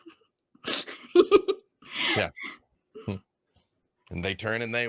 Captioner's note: laughing